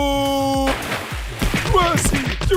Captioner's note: water splashes